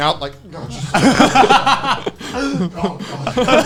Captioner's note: laughing